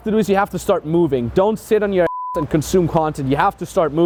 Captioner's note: beep